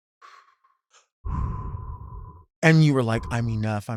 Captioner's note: Delta blows softly; Sapphira blows softly